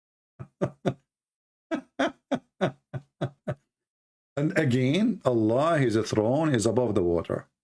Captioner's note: Ketawa